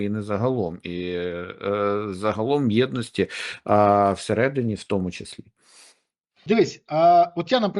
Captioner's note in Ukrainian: сопіння